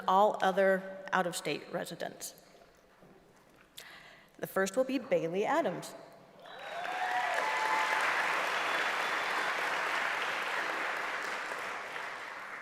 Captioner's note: applause